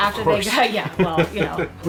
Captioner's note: laughing